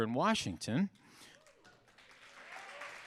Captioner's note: audience applauding; audience cheering